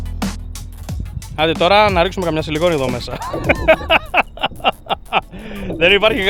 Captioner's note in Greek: γέλια